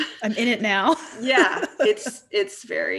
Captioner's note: laughs